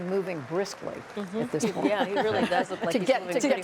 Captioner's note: laughter